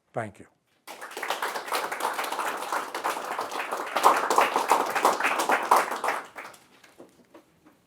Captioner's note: applause and cheering